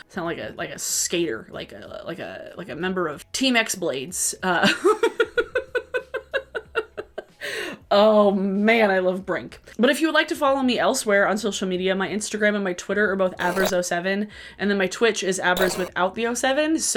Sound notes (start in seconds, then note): 4.6 laughing